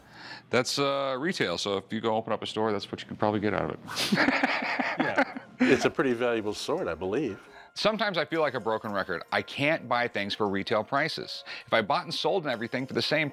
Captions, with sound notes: That's retail. So if you go open up a store, that's what you can probably get out of it. [laughs] Yeah. It's a pretty valuable sword, I believe. Sometimes I feel like a broken record. I can't buy things for retail prices. If I bought and sold everything for the same price,